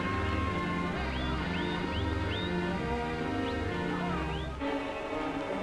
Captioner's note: whistling and yelling